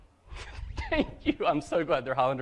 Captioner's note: laughter